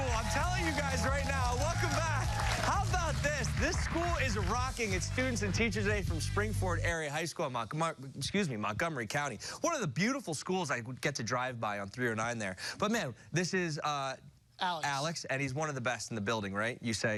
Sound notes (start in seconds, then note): 6.8 cheers and applause